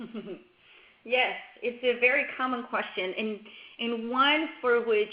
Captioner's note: laughs